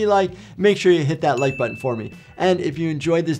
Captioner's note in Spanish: campanilla gráfica